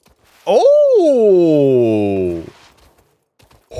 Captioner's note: normal sounds for a grown man to make